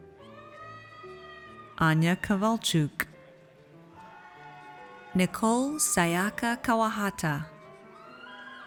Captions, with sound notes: Anya Kavalchuk. (audience cheers) Nicole Sayaka Kawahata.